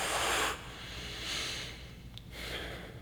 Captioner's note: unsteady breaths